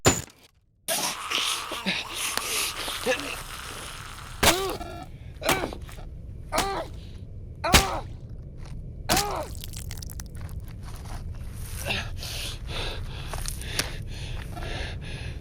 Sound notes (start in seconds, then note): 0.9 Maddy growling; 6.6 squelching; 12.4 heavy breathing